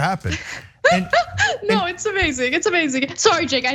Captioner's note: laugh